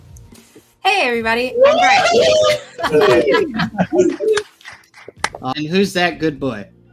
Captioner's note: cheering